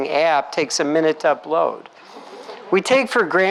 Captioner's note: laughs